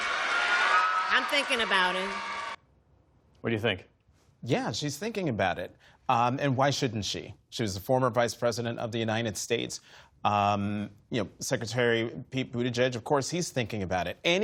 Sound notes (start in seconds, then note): 0.0 cheering